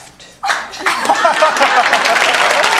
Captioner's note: laugh; audience clapping